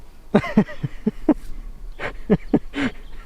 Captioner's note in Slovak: smiech